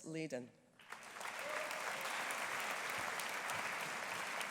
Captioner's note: audience applauding